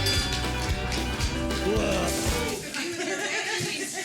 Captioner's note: staff chuckle